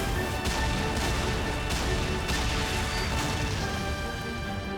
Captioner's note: sound of punching